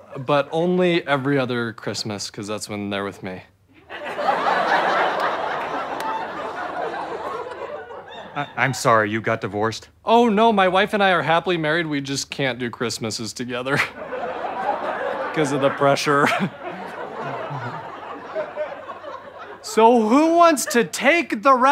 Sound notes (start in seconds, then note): 3.8 audience laughter; 16.8 audience laughter